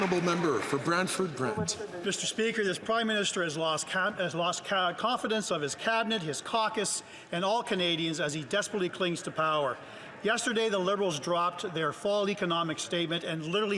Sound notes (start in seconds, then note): 2.2 some Applause